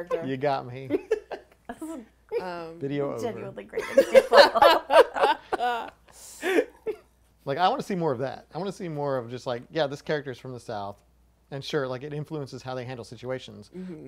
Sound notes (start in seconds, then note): 1.9 laughs; 3.8 group laughing